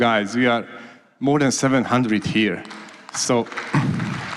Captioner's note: applause